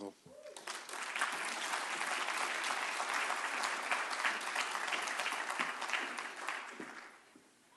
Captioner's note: applause